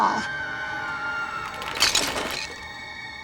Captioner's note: screams; glass shattering